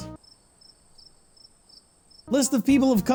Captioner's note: cricket Noises